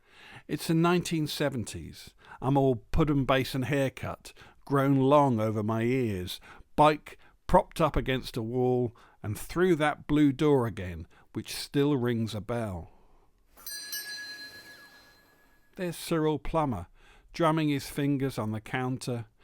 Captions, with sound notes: It's the 1970s, I'm all pudding basin haircut grown long over my ears bike propped up against a wall and through that blue door again which still rings a bell. [Shop bell on door rings] There's Cyril Plummer drumming his fingers on the counter